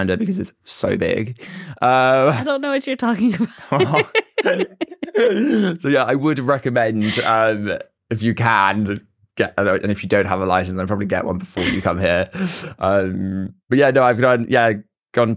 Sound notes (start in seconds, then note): 3.5 both laugh